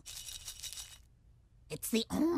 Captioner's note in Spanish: Cereales y pastillas tintineando